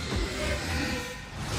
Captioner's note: growling